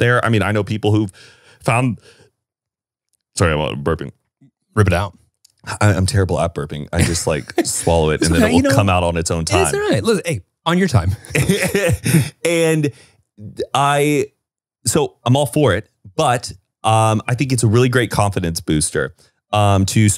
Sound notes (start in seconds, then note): 11.0 laughing